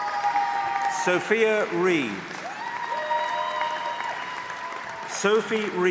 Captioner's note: applause; applause